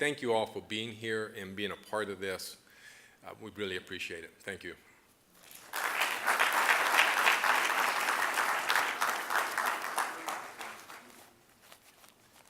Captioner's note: applause